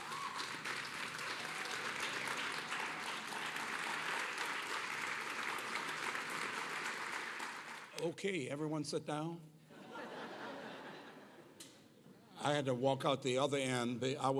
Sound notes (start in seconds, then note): 9.7 laughter